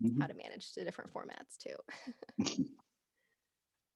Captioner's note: both laughing